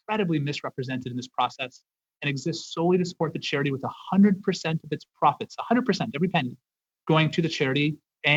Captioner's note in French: voix de l'interprète